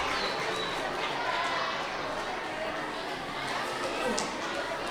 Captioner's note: audience chattering